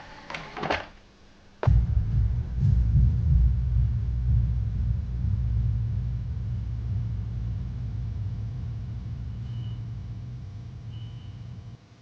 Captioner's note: movie playback